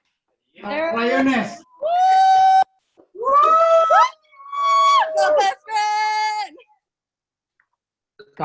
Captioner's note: cheering